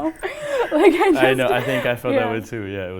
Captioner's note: laughing